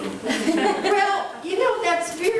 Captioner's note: laughing